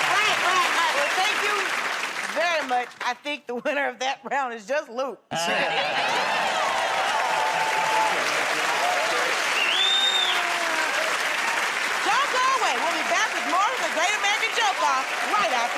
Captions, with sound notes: -Right, right, right. Well, thank you very much. I think the winner of that round is just Luke. -Yeah! [ Cheers and applause ] -[ Whistles ] -Don't go away. We'll be back with more of "The Great American Joke Off"